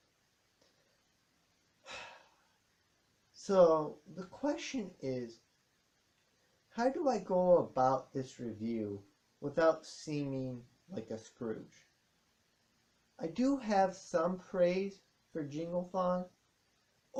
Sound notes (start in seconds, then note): 1.8 sigh